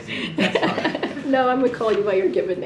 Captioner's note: laughs